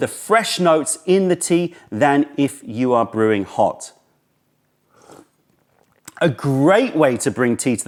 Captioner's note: sips tea